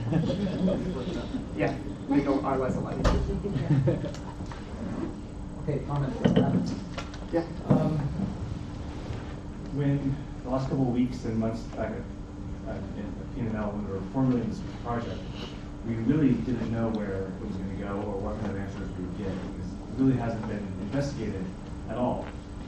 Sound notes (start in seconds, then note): 0.0 audience laughs; 3.4 audience laughs; 6.3 speaker drowned out by static